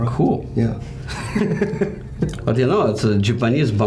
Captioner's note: laughing